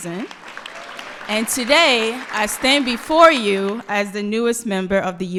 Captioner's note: applause